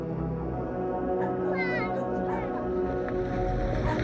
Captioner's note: dog barking; chattering